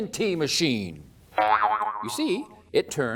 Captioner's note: boing!